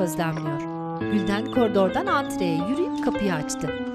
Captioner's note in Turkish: Kapı zili sesi